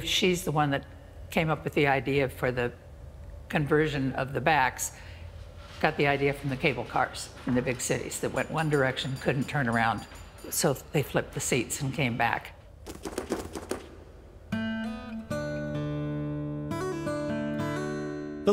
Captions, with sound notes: and we believe she's the one that came up with the idea for the conversion of the backs. Got the idea from the cable cars in the e big cities that went one direction, couldn't turn around, so they flipped the seats and came back. (pews flipping and clicking) (gentle music)